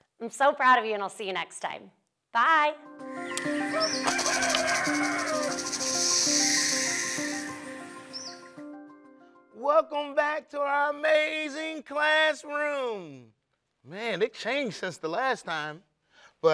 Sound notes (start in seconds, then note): 2.7 bright music; 3.2 animals chittering